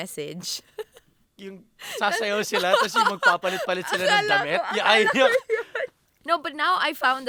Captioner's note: laughs